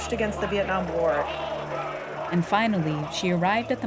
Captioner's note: soundbite of archived recording